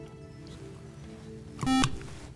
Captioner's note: beep